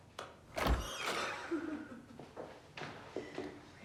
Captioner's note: door squeaks